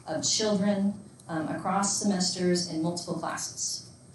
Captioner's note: none